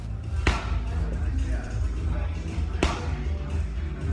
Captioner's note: glove smacks